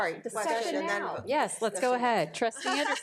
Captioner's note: speaks faintly